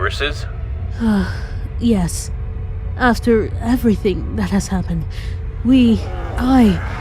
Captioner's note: sigh